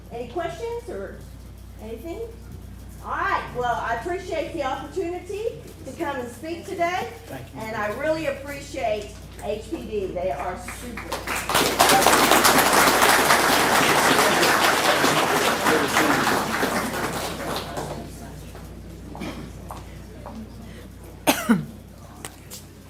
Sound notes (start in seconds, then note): 10.6 applause